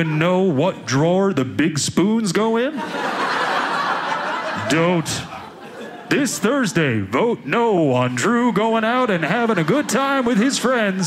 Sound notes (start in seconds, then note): 2.6 audience laughing